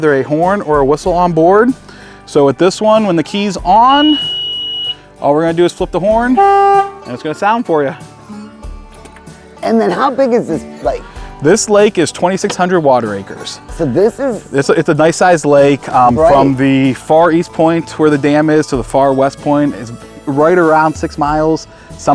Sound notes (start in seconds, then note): 4.0 key beeping; 6.2 horn blowing